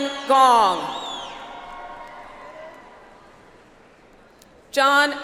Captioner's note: audience applauds